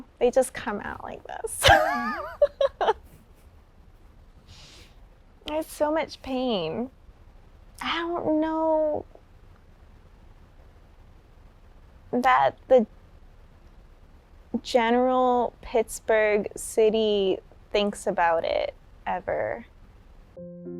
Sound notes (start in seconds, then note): 1.6 laughs; 20.3 slow music